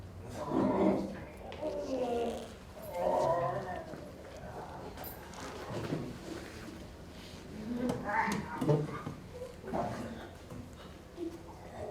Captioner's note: a mixture of a man groaning and a wolf growling